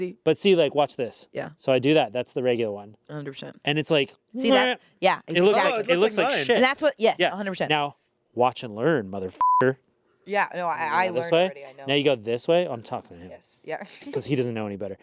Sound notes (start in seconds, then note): 9.4 beep